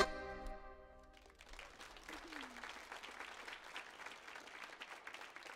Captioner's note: audience applauds